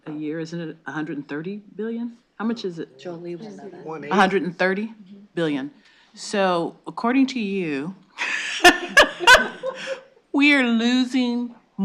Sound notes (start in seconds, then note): 8.2 laughs